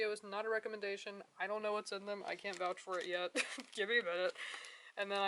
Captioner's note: laughs